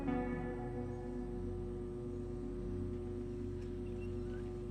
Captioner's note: low electric buzzing